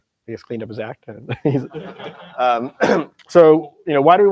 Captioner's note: laughter